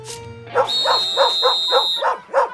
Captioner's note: whistle blows, dog barking